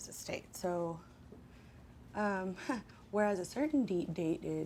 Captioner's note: laughs